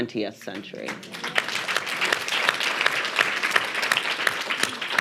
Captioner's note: audience applauding